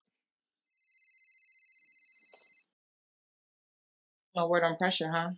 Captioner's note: cellphone ringing